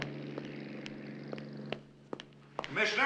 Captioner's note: none